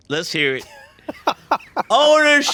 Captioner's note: Ryan laughs